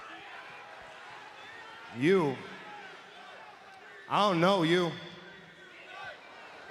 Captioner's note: applause